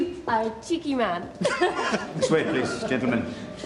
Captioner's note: <i> both laugh</i>